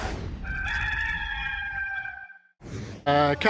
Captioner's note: rooster crows